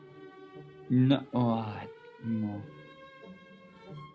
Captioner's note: groans